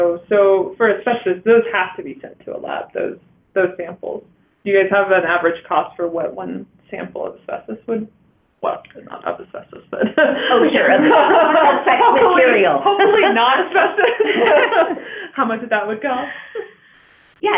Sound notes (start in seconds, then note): 10.3 laughing, indistinct chatter